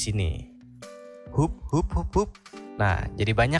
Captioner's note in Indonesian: hup.. hup.. hup.. hup